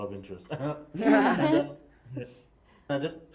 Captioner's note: laughing